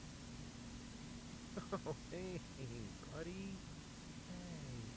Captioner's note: chuckles Nervously